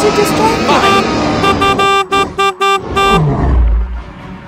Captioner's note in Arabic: هورن يزمّر